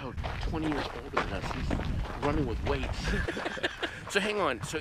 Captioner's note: both laughing